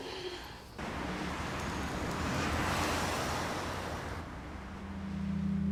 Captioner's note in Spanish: Sonido del carro